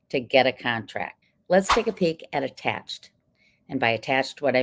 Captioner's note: text whooshing